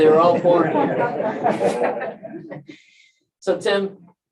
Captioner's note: laughter